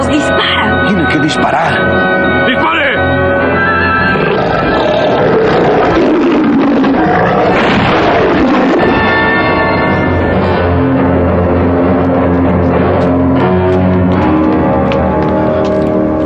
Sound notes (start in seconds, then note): 3.6 roaring